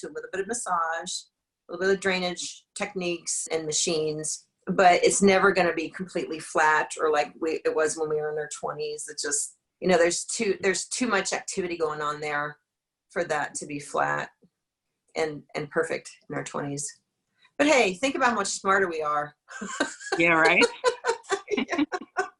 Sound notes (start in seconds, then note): 19.9 laughs